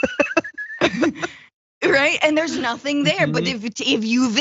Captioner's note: laugh